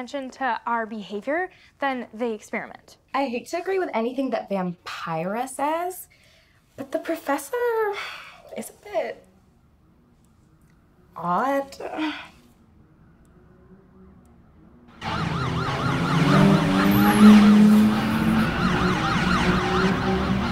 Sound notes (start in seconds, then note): 13.4 distant car engines racing and sirens; 15.1 police car sirens